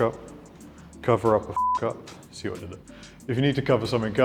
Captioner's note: beep